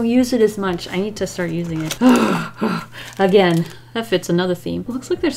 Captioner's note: grunts with happiness